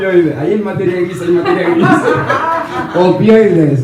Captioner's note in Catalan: rialles